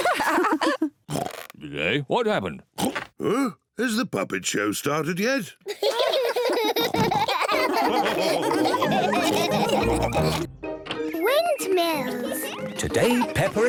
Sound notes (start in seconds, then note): 0.0 lady pigs giggle; 5.6 all giggle